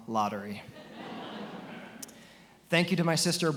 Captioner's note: attendees laughing